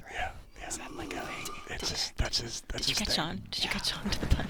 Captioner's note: whispering